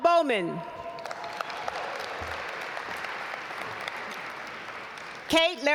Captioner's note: audience applaud